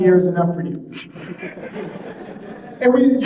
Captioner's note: laughing